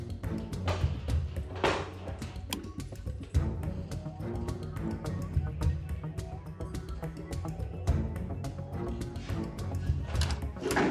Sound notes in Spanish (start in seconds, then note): 0.8 portazo